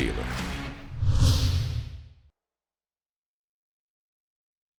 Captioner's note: graphic whooshing